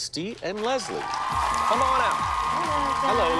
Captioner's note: cheers and applause